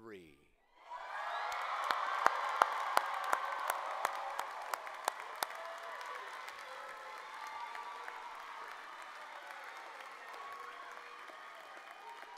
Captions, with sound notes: Move your tassel from the right to the left. One... two... three... [Cheers and applause]